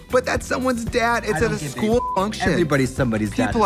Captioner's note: beep